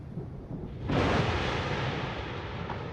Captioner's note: thunder cracking